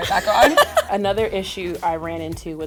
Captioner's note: laughing